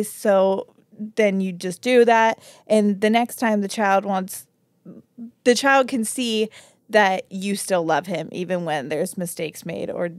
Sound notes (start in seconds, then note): none